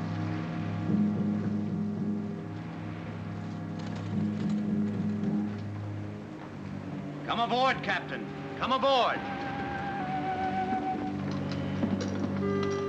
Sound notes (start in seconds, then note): none